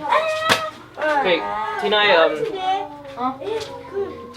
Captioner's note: kids chatter